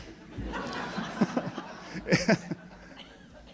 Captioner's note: laughing